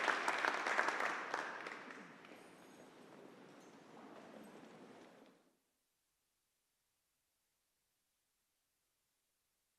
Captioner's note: applause